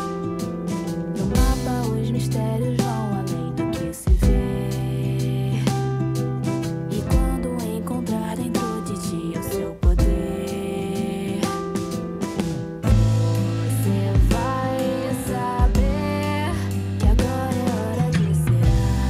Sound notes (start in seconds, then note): none